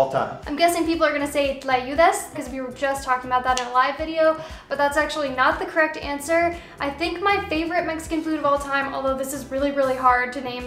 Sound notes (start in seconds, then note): none